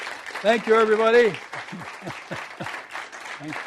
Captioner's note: chuckles